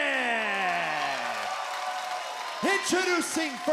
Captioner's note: audience cheering